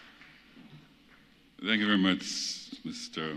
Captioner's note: applause